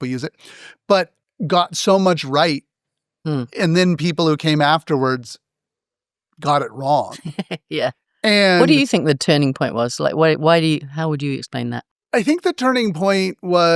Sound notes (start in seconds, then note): 6.4 laugh